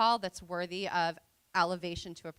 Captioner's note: none